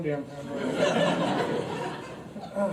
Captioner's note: audience laughs